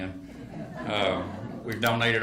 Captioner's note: attendees laugh